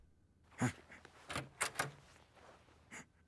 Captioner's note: door opens